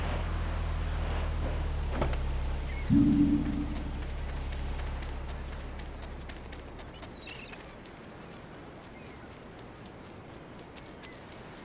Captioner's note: siren wailing